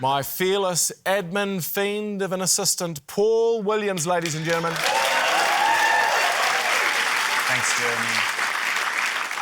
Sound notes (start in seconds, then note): 4.4 cheering, applause